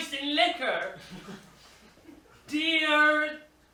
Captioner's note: they whisper